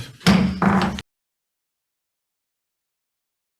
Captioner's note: gavel bangs